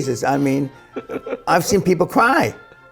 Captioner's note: chuckling